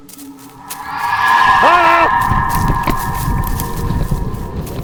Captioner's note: glitch sound; spectral scream; Ruggiero scream